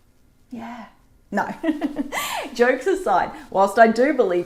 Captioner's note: chuckles